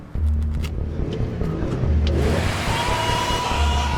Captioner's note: van revs